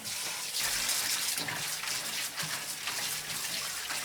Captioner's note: water running